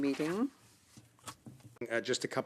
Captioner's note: speaking French